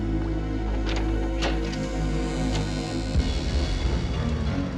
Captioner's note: door creaking; door knob clattering; intense music